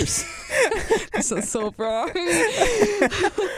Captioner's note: both laugh